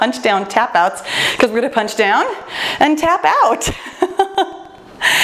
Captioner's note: laughs